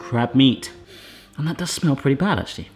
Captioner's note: sniffing